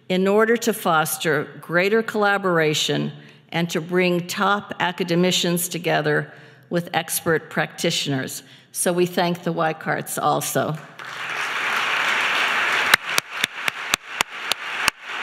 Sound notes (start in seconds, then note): 12.4 applause